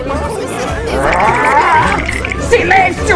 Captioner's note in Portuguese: Sons de nervosismo